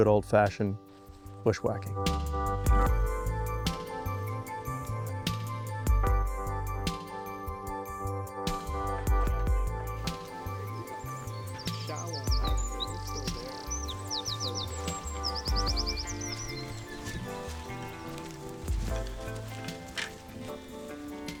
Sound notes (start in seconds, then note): 13.3 birds chirping